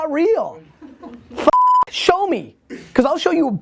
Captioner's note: beep